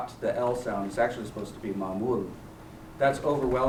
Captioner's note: non-english speech